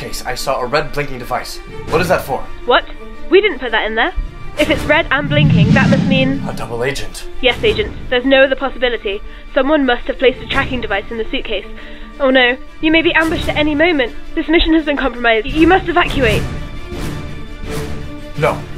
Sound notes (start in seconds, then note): none